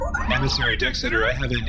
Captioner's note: incoming transmission beeps